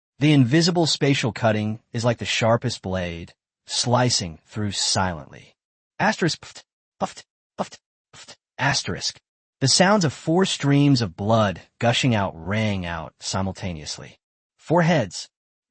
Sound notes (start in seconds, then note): 6.1 pfft! Pfft! Pfft! Pfft!